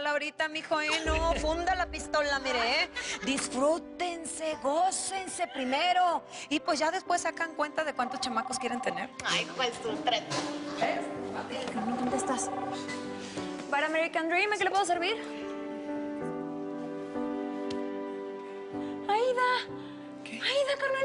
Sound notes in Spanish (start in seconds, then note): 11.8 Suena un teléfono